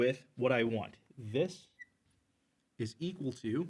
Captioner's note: marker squeaks